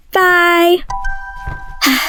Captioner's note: phone call ends; sighs